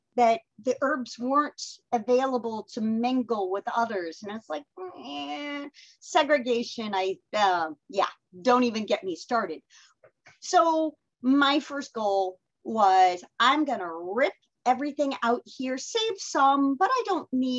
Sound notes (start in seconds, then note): 4.8 groans